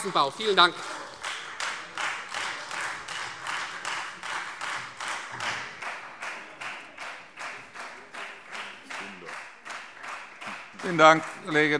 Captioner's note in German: Anhaltender Beifall Freie Demokraten